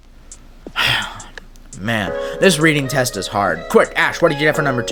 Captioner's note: sigh